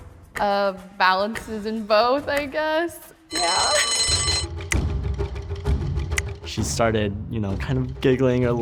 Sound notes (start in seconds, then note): 3.3 timer rings; 4.7 suspenseful music